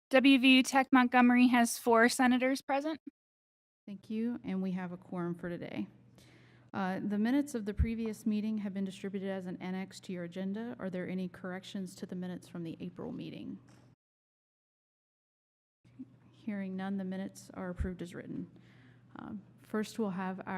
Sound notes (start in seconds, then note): 14.3 silence